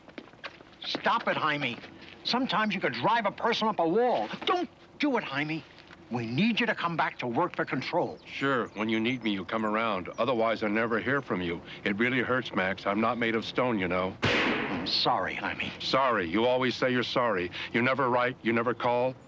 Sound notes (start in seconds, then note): 14.2 thudding